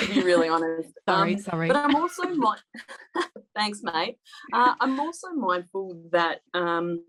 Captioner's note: laughter